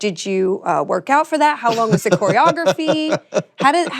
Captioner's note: laughs